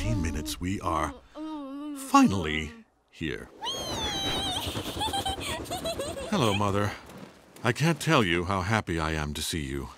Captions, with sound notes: we are finally here. Weee! [giggling] Hello, Mother. I can't tell you how happy I am to see you.